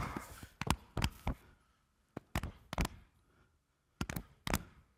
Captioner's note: hand tapping